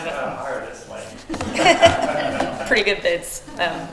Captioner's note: attendees laughing